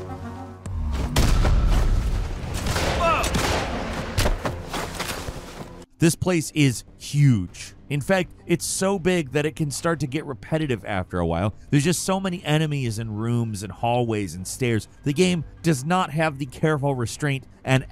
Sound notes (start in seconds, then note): 0.1 infantry speaking German; 3.0 gunshots boom